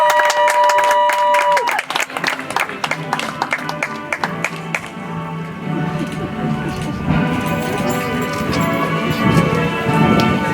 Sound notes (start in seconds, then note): 2.9 audience applauds; 7.9 soft music